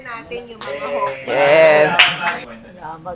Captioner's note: applauds